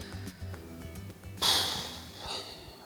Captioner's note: exhales